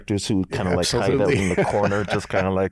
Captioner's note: chuckles